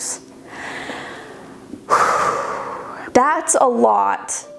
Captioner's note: sighing